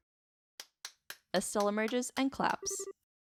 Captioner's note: clapping